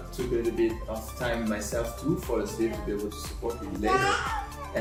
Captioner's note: speaking faintly